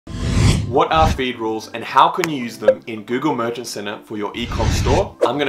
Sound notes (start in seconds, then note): 0.0 zoom whooshing